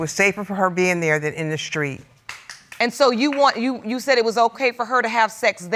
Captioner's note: audience member clapping